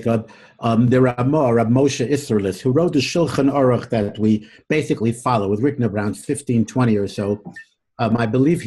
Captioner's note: Hebrew